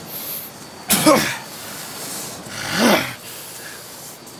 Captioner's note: Tex spits